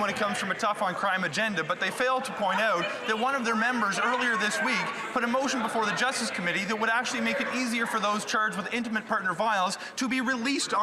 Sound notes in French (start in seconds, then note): 0.0 voix de l'interprète